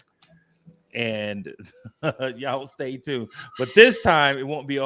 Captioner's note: chuckles